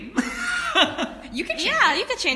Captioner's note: laughs